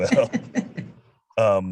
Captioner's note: chuckles